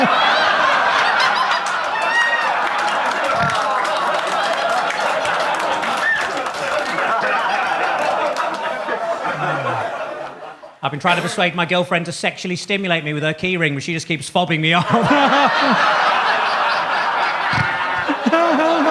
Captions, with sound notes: (audience laughs) (audience claps) I've been trying to persuade my girlfriend to sexually stimulate me with her keyring, but she just keeps fobbing me off. (laughs) (audience laughs)